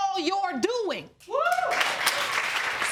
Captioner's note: audience cheering